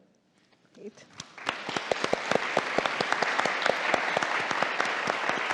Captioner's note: audience applauding